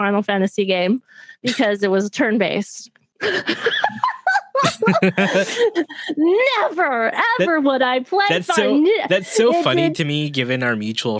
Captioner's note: laughter